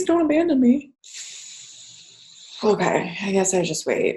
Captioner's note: exhales audibly